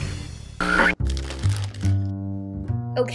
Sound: rustling bag

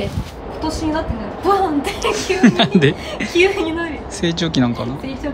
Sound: laughs

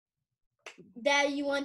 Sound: clap

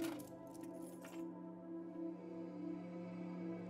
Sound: keys rattling

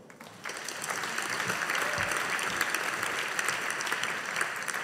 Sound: audience applauding

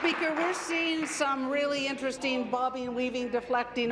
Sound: applause

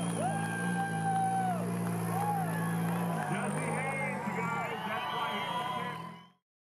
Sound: crowd cheering

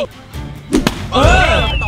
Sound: blows

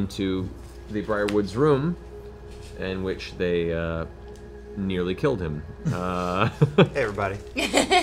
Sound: chuckles

